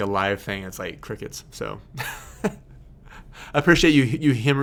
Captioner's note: laughing